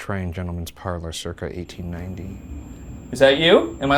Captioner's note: REM-Pod beeping